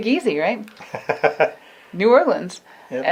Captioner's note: laughs